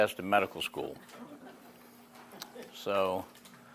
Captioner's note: laughing